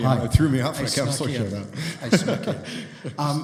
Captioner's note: chuckles